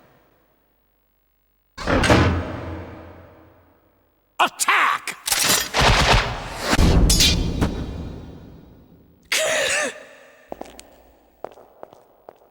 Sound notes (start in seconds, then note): 5.2 many rushing bolts; 9.2 gasp